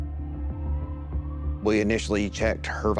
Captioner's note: sirens wailing